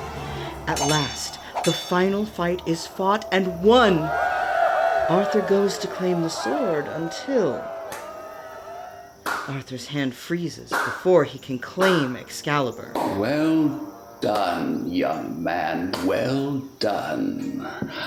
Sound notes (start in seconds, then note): 4.3 Arthur's retinue cheers; 7.8 ominous slow clapping